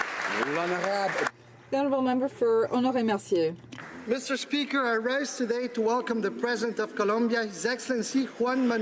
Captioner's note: applause